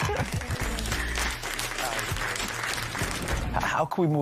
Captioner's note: applause